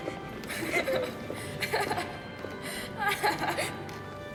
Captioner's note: laughter